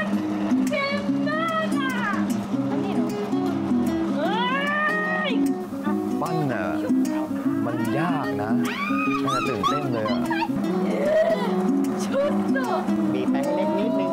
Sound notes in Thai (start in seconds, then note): 4.2 เสียงร้อง